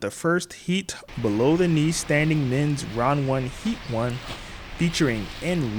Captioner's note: airplane engine roaring